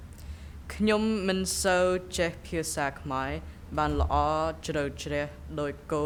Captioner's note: speaking in a foreign language